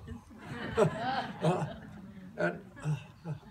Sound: laughter

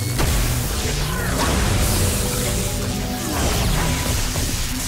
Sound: electricity sizzling

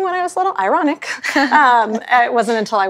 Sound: ladies chuckle

